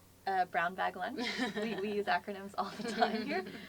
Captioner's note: laugh